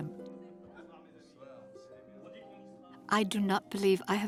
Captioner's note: people chatting